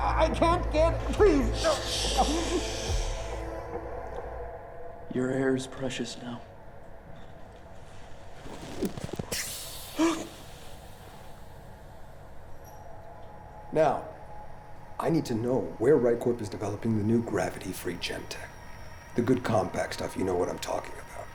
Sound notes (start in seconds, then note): 8.2 mask peeling off; 9.1 air releasing; 9.3 sharp inhale